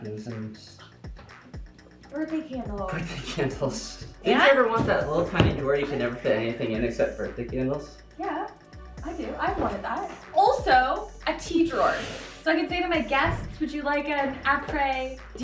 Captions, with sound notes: - Yeah, napkins and... - Birthday candles. - Birthday candles. (chuckles) - And- - Didn't you ever want that little, tiny drawer you could never fit anything in, except birthday candles? - Yeah, I do. I've wanted that. Also, a tea drawer. So I can say to my guests, "Would you like an apres diner?"